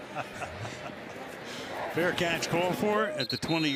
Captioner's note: laughs